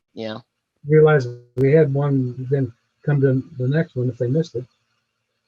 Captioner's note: speaking faintly; speaking faintly off mic